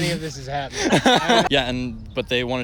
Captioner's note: laughter